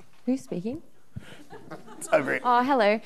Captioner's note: audience laughing